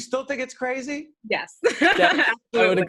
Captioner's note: laughing